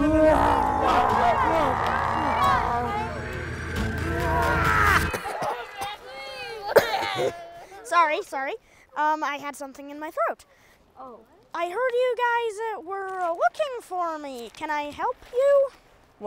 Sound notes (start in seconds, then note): 0.0 Bigfoot roars; 2.4 panicking; 5.1 Bigfoot coughing